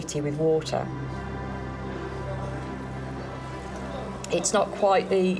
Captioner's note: gentle music continues; romans chattering